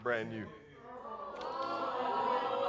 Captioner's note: audience gasping